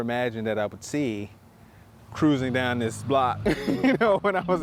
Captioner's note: laughs